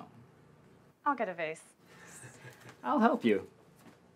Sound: Cody chuckles

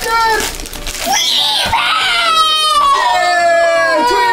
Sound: screams

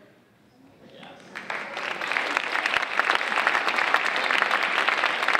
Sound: audience applauding

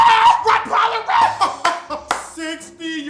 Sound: screaming; laughing and clapping

